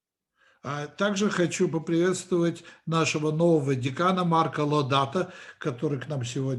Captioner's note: translator speaking Russian language